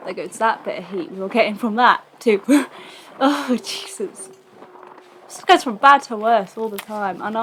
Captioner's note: laughs